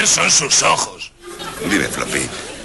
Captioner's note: canned laughs